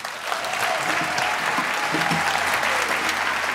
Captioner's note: applause